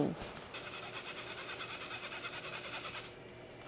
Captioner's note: grinding sound